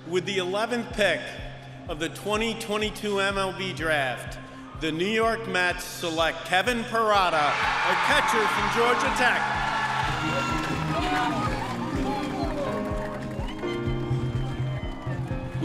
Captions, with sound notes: - With the 11th pick of the 2022 MLB draft, the New York Mets Select Kevin Parada, a catcher from Georgia Tech. (audience cheering) (emotional music)